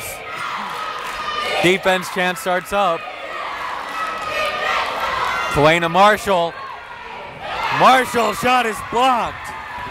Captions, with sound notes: Rodriguez, defense chant starts up. (chanting) Kelena Marshall, Marshall's shot is blocked!